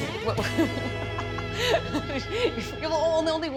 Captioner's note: laughing